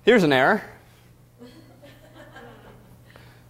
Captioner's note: audience laughter